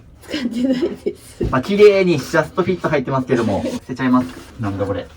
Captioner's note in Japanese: 笑い